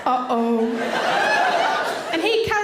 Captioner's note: audience laughing